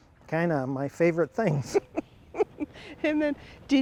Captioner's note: chuckles